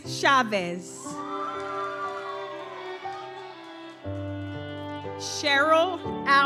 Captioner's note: gentle music continues; audience cheers